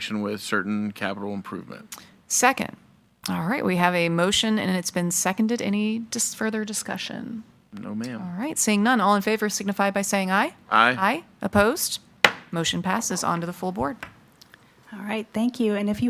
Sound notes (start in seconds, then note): 12.2 gavel thudding